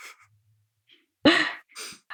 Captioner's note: laughs